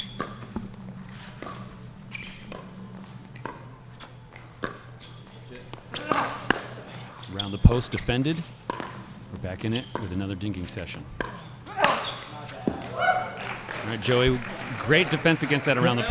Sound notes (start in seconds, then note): 11.7 player grunts; 11.7 ball being hit hard; 13.2 applause